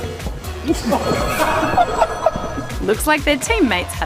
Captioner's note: laughter